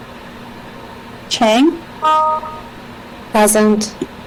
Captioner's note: notification dings